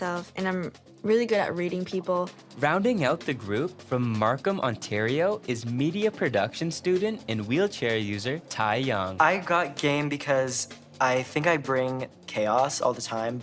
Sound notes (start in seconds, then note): none